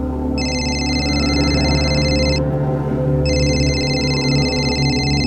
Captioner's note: ringing